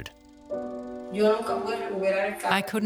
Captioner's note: speaking in Spanish